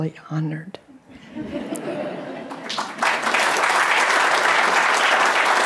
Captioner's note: audience clapping